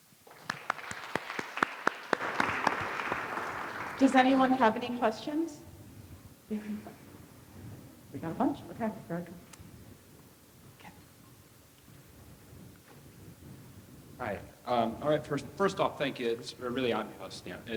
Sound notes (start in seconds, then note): 0.2 audience clapping; 6.7 student speaking faintly